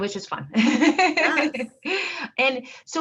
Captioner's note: laughing